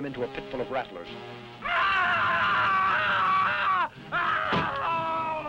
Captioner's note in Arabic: كروب يصرخ